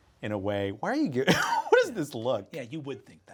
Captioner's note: chuckles